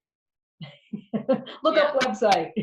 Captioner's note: laughs